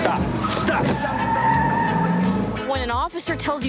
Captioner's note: tires scrcreeching